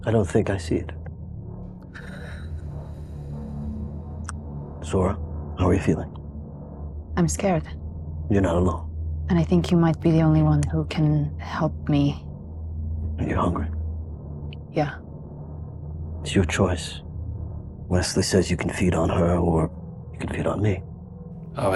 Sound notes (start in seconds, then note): 2.0 sighing